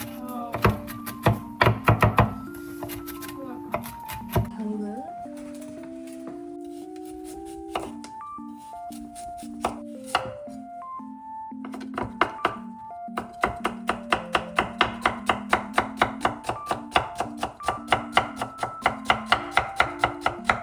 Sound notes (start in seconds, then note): 1.5 sobbing